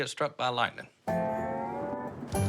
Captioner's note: thunder